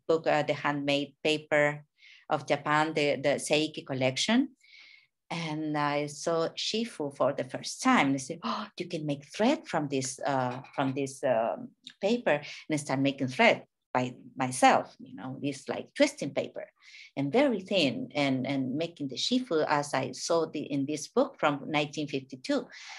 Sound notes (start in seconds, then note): 3.9 speaking in a foreign language